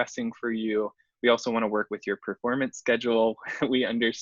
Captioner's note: laughs